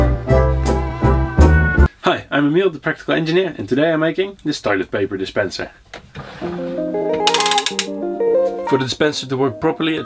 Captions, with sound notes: - Hi, I'm Emiel, The Practical Engineer. And today I'm making this toilet paper dispenser. (gear cranking) (easy listening music) For the dispenser to work properly